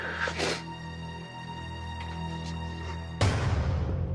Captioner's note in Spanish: Sollozos